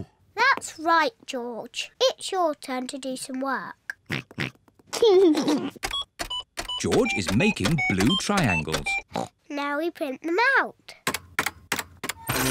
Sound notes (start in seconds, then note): 4.0 computer beeping; 4.8 oinks and giggles; 9.1 oinks